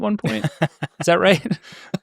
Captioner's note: laughing